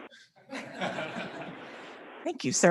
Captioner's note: people laughing